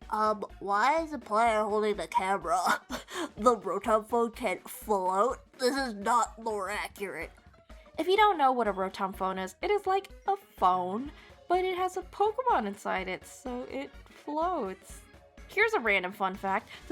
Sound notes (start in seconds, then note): 2.9 huffing air